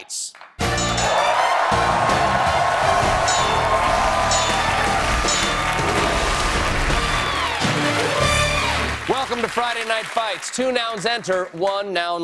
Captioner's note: cheers and applause